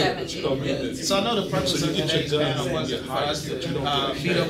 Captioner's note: all chattering